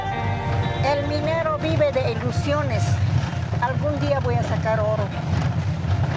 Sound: speaking in foreign language

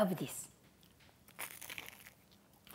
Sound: crunches

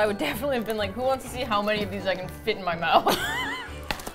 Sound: both laugh

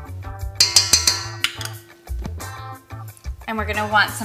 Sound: clanking

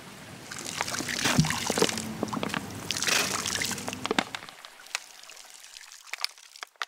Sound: loud splashing noises

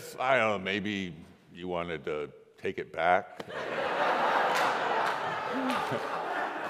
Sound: congregation laughs

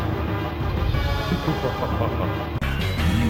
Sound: laughs

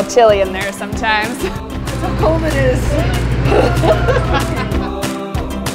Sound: laughing; upbeat music

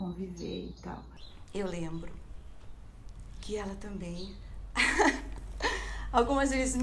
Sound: laughs

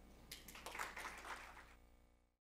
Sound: applause

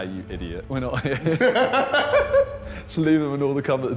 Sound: laughing

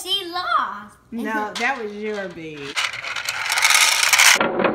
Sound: voiceover

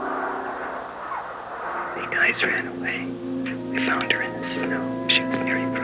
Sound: whispering

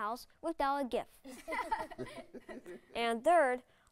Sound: laughs

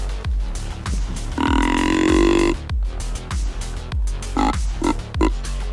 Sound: deer call grunts

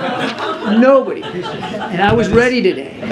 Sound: laughter

